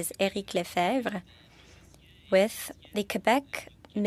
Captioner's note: speaking French